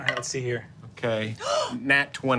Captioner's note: gasping